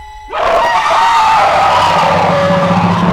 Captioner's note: loud screaming